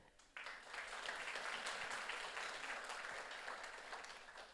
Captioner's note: audience applauds